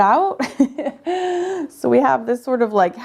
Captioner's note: chuckling